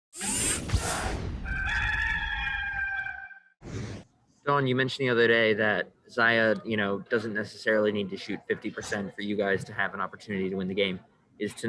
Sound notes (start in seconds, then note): 0.1 robotic whirring; 1.4 rooster crowing